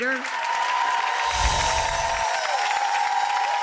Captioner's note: applause